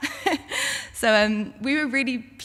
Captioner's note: laughs